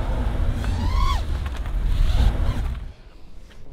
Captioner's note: propeller noise